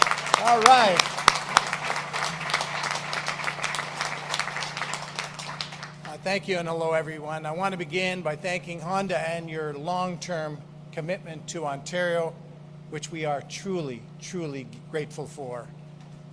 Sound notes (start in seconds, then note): 6.4 applause